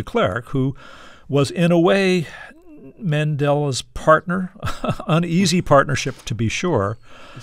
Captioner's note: laughter